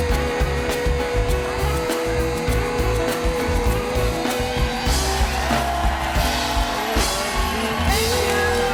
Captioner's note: applause